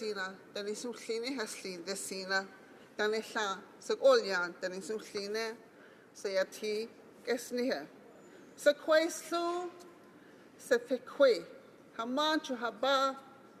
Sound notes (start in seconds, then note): 2.1 speaking Alternate Language